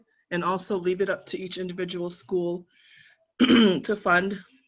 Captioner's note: coughing